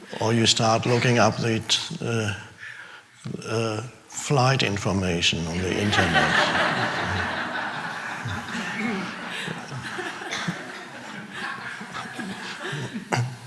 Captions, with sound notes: Or you start looking up the flight information on the internet. (audience laughing)